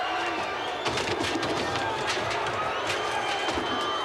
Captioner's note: props smashing